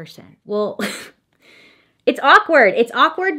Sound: chuckles

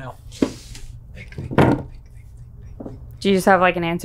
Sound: whispers

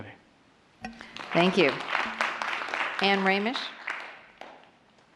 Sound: applause

